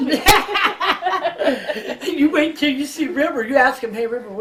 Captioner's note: laughing